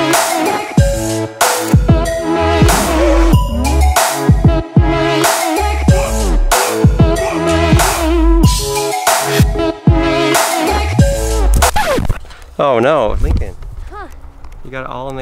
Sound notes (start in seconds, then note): 0.0 upbeat music; 11.5 record scratching